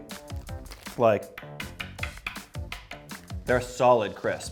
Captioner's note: tapping crisp on table